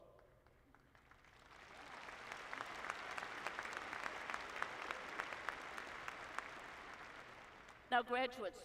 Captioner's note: applause